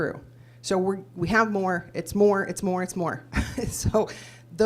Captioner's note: laughs